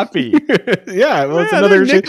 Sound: laughing

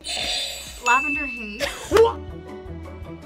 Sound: bell rings; buzzer rings; playful music

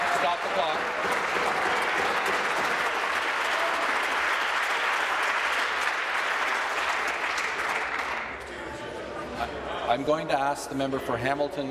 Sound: applause

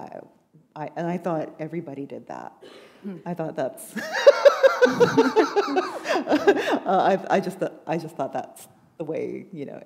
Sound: laughter

